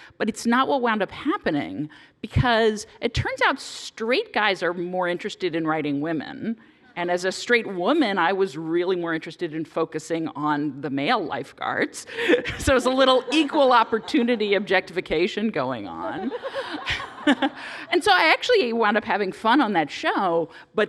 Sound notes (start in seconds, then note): 16.0 laughter